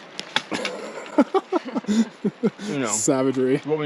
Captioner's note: laughing